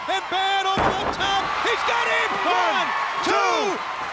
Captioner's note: body thudding